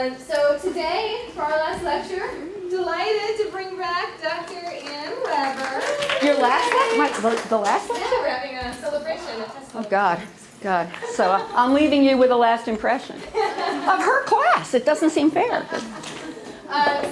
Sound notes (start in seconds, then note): 4.5 applause; 13.2 laughter